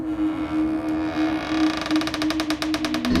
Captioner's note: creaking